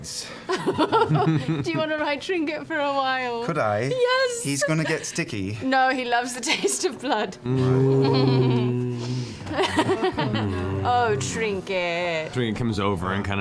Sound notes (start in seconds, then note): 0.5 laughs; 7.4 sad moaning; 10.2 laughs